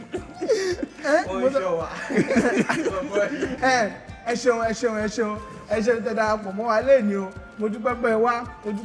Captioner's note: laughs